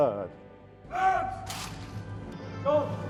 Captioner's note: officials yelling